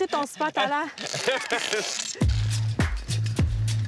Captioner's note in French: rires